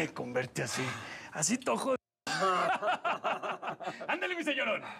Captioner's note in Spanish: risas